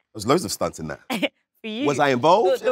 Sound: chuckles

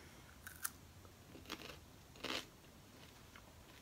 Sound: crunchy sound

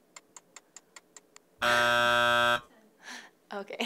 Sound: buzzer buzzes

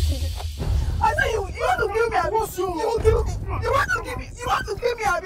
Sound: arguing in foreign language

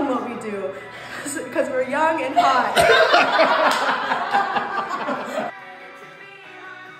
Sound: laughs

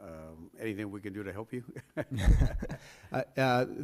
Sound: laughs

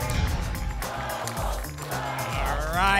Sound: audience chanting "double!"

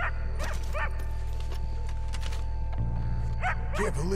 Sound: A dog keeps barking in the background

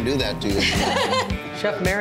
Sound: laughing

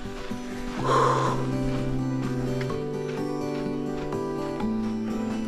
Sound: breathing heavily

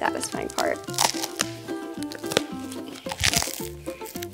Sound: shoes snapping

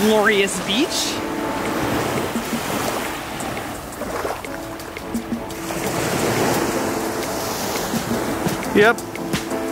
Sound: sound of waves

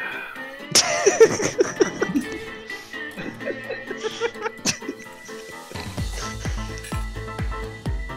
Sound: laughter in the background

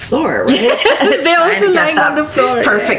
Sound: both laugh

